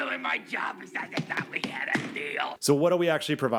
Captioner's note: feet thudding